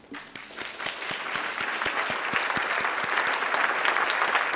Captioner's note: audience applauding